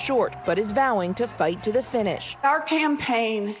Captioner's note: crowd chanting